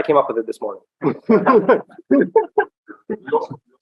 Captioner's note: laughter